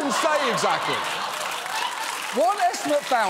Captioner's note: studio audience laughs and applauds